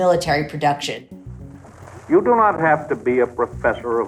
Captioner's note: soundbite of archived recording